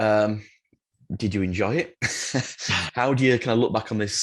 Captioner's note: laughs